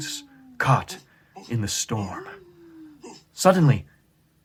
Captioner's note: dog howling